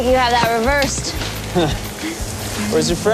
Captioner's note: chuckles